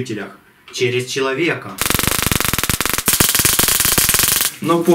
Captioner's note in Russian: треск